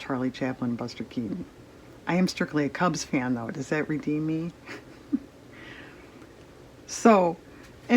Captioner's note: laughs